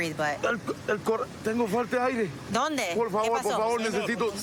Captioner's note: speaking spanish